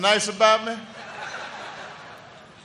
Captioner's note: laughter